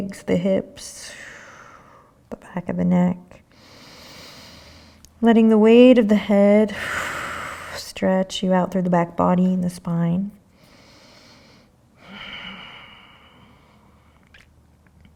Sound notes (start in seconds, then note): 1.2 exhaling; 3.6 inhaling; 10.5 breathing